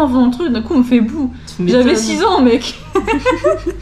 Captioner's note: laughs